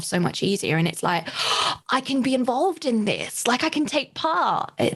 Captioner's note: gasps